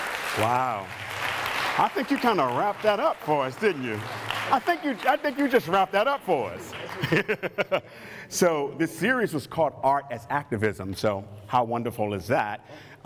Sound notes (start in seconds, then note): 0.0 applause; 7.1 brief laughter